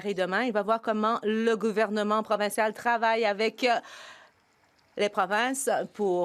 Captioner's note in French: voix de l'interprète